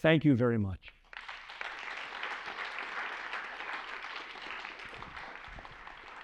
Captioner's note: applause